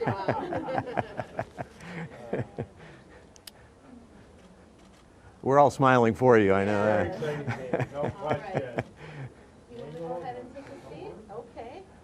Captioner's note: laughter